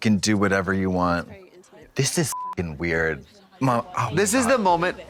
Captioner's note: beep